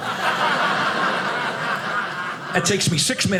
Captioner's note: audience laughing